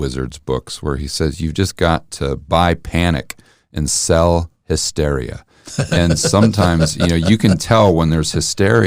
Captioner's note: laughing